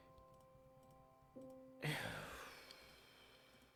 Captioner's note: exhale